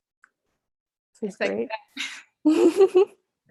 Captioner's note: laughs